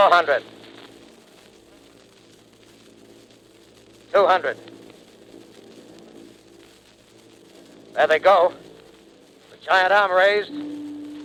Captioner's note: sound of heat ray